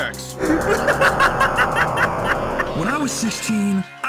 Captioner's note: laughs